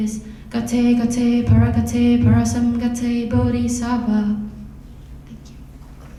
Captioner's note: foreign language